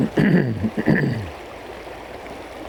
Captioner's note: cough